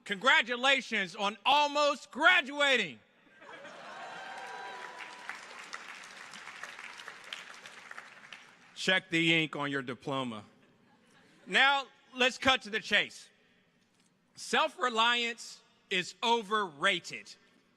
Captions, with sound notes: congratulations on almost graduating. (audience applauding) Check the ink on your diploma. Now let's cut to the chase. Self-reliance is overrated.